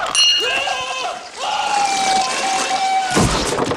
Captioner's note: yells; bell dings